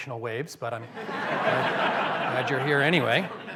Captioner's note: laughter